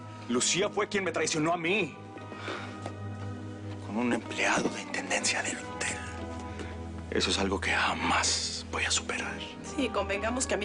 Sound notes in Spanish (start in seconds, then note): none